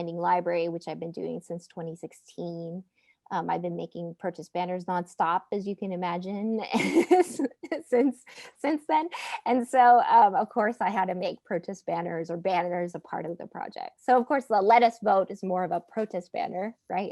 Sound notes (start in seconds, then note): 6.8 laughing